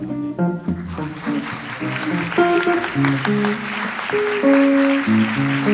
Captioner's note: audience applauds